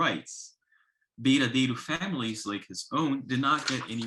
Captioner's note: speaks in foreign language